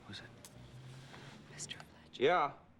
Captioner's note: whispering